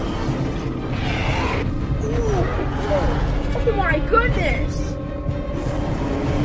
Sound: all growl and roar

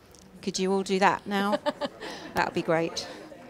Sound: laughing

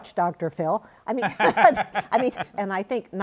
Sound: laughs

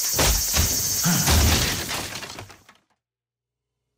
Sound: wood splintering; gasps

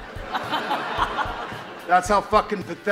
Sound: audience laughs

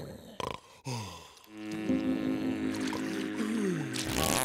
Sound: snoring; buzzing

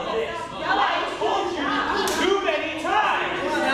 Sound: all yelling

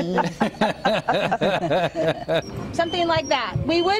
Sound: laughter

